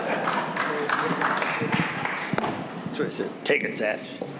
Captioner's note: audience laughing; audience applauding